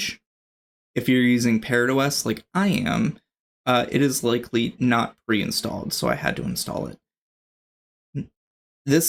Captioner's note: uh